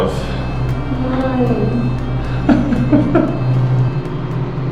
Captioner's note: chuckling